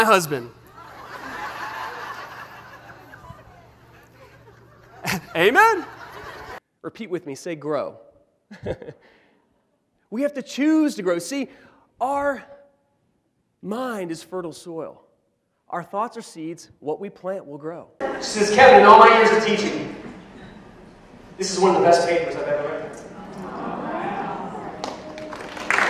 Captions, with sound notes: you don't know my husband ... [ laughter ] ... [ laughter ] ... Amen ... [ laughter ] ... repeat with me, say "grow" ... we have to choose to grow. See our mind is fertile soil, our thoughts our seeds and what we plant will grow She says, "Kevin, in all my years of teaching ..." "... this is one of the best papers I've ever read."